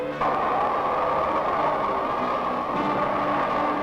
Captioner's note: wind rushing